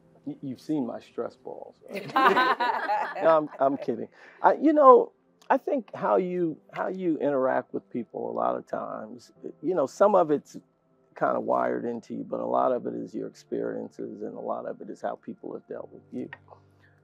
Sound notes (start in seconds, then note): 1.9 laugh